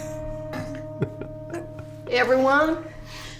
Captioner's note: giggling